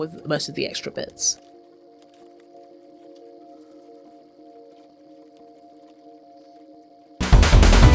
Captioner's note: snipping asmr